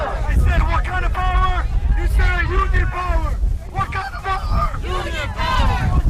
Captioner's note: chanting